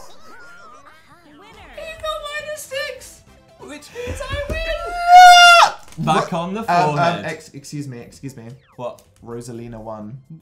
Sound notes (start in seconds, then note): 0.8 high voice